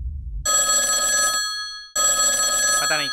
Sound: phone ringing

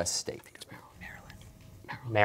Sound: whispering

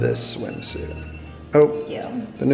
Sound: phone rings

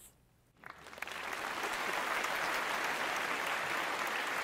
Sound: applause

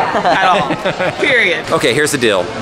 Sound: laughs

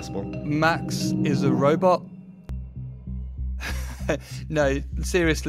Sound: laughing

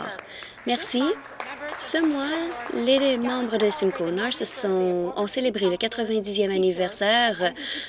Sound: some applause

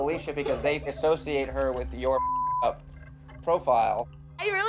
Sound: beeping

